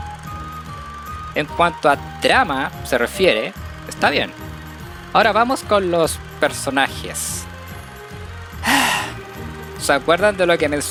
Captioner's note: sigh